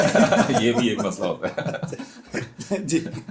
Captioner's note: laughter